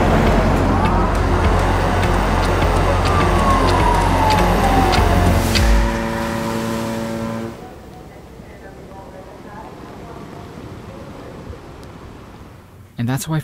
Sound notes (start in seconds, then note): 3.4 sirens wailing; 5.8 horn blaring